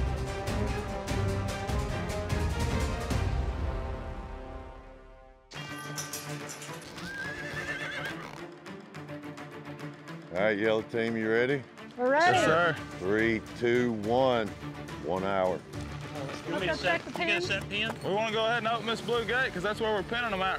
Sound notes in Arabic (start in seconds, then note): 6.9 صهيل الحصان